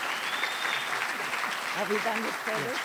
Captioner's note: applause